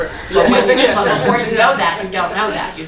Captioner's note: laughing